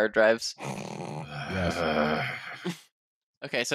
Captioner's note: snorts